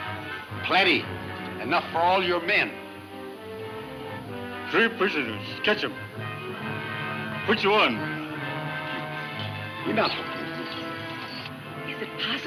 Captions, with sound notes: - Plenty, enough for all your men. - Three prisoners catch 'em. Which one? (Buckskin speaking in foreign language)